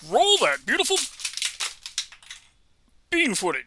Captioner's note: Lego treehouse branches clatter to the floor